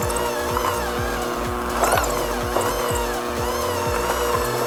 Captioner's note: handmixer whirs